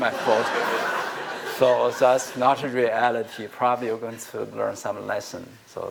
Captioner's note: laughter